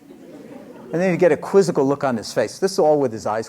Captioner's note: laughter